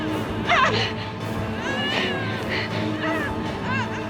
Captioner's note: groaning